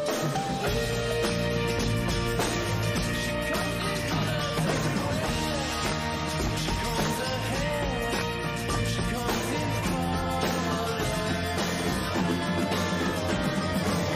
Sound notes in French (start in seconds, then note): none